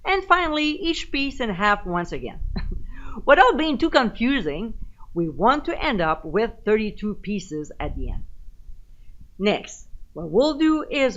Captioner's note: giggle